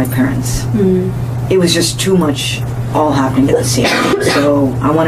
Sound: coughs

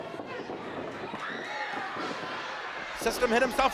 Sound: crowd screaming

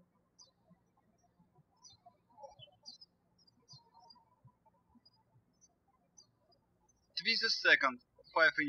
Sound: birds chirping

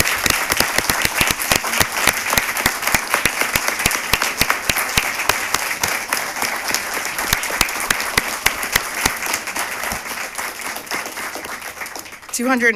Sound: cheers and applause

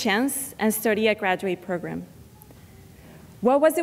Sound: none

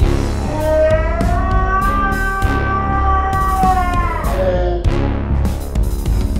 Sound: intense music; screaming

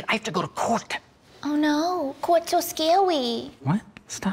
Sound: baby voice

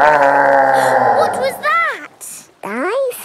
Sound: gasps; growling; laughing

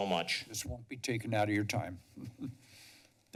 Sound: chuckles

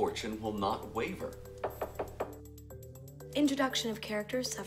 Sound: knocking

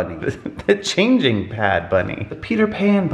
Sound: chuckles

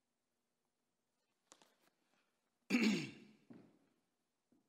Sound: Gerald clears throat

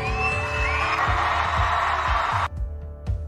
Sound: clapping and cheering

